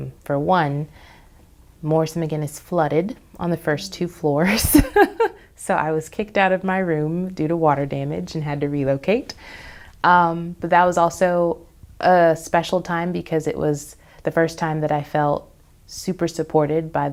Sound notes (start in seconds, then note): 4.5 laughs